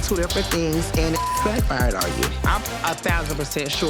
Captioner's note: beep